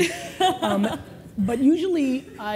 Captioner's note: laughter